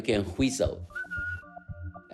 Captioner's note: soundbite of whistle